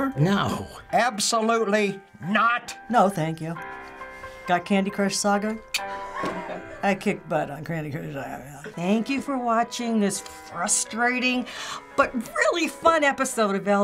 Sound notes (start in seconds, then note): 5.7 clicks tongue; 5.8 Finebros laughs